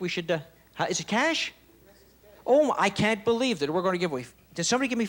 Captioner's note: none